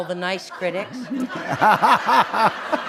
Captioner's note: laughter